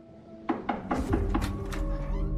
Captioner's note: knock on door